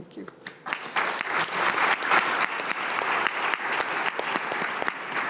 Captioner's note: attendees applauding